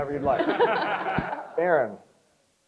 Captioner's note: crowd chuckles